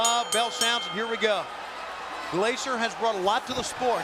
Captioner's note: bell ringing